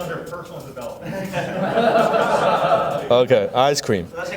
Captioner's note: audience laughing